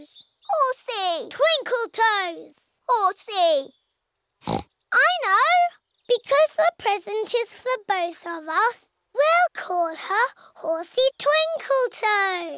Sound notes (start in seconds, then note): 4.4 oinks